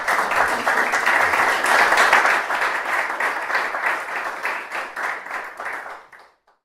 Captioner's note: applause